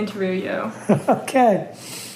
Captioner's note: laughter